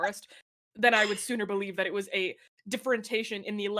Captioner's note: laughs